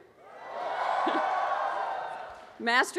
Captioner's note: audience cheers